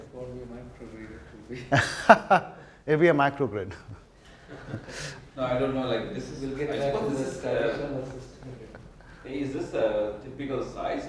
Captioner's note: audience discussion